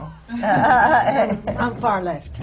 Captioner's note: laughter